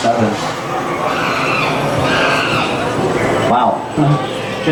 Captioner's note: background sounds of the jungle